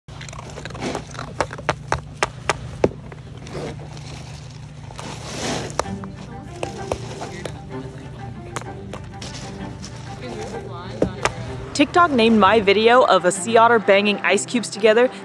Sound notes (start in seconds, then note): 0.0 otter banging ice together; 0.0 otter crunching ice; 4.9 background music; 5.8 sound of ice cubes shifting; 6.5 otter banging ice together